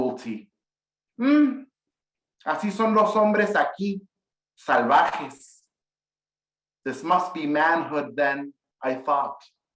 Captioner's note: speaking in Spanish